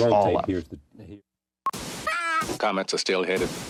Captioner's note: beep